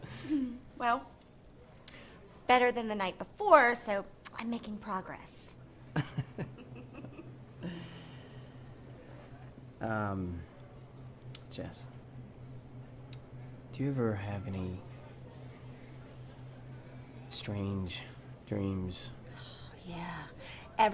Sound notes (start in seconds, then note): 6.0 laughing